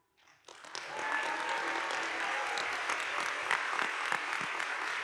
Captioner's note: audience applauding